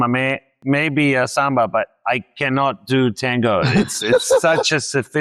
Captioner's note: laughs